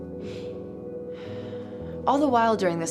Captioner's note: sighing